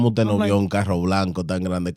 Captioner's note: speaking In Foreign Language